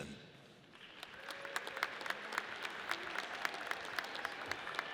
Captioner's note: audience applauds